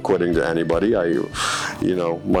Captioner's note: breathing deeply